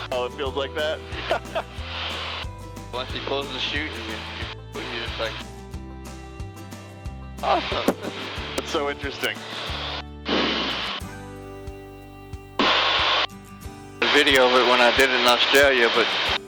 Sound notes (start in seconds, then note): 1.2 laughing; 10.5 gentle acoustic music